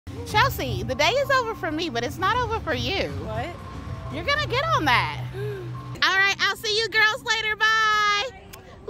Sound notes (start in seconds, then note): 5.3 gasps